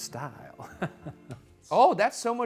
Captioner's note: laughing